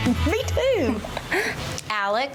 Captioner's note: laughs